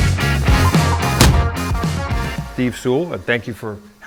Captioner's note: door slamming